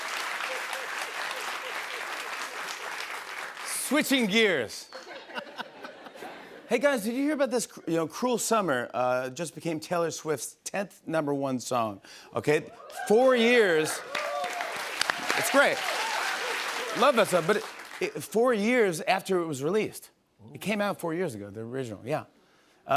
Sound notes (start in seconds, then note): 0.0 applause continues; 4.9 laughter; 12.8 cheers and applause